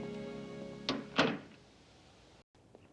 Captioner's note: door closes